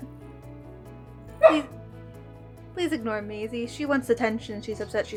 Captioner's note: Maisie barking needily in the background